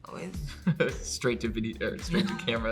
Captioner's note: off-screen laughter